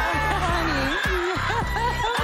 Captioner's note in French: laughter